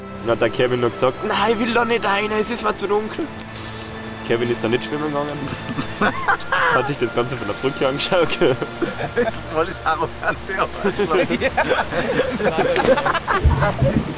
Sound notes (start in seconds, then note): 5.2 laughing; 13.5 laughter